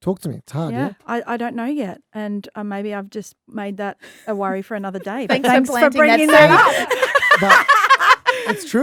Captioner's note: laughing